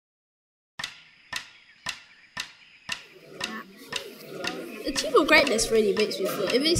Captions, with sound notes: (rhythmic tapping) (students chattering) - Achieve Your Greatness really makes me feel,